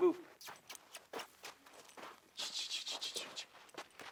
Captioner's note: kissing calls